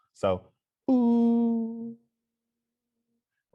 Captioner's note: makes falling vocal sound